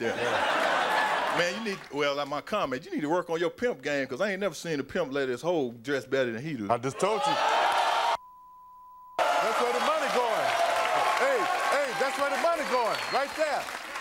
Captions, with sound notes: (audience laughing) Man, you need, well, I might comment, you need to work on your pimp game. 'Cause I ain't never seen a pimp let his ho dress better than he do. - I just told you. (audience cheering) (beep) That's where the money going. Hey, hey, that's where the money going, right there.